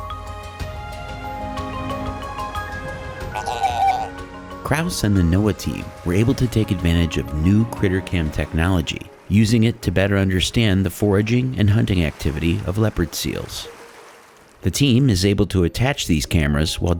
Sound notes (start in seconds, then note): 3.2 seal squeaks